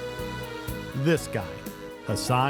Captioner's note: gentle music; razor buzzing